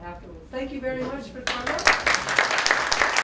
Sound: applause

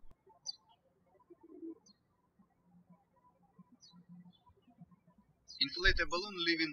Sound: birds chirping

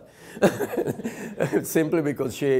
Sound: laughing

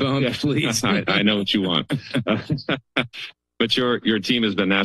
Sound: laughs

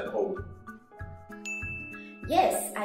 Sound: bell rings

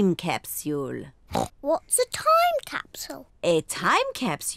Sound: oinks

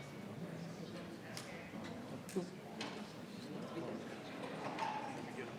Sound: people continue chattering

